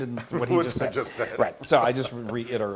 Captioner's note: laugh